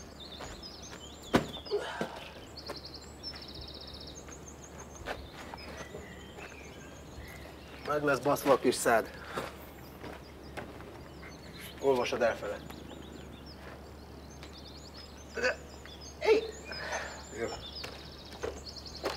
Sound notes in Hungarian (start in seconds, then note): 1.7 grunts